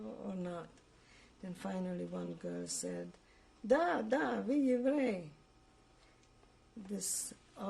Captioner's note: russian